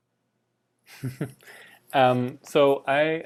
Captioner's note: laughs